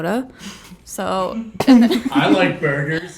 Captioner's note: all chuckle; all laugh